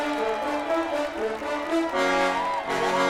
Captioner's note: trumpets blaring; cheering and applauding; trumpets blaring